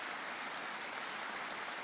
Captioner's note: applause